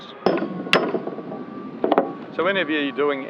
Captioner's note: banging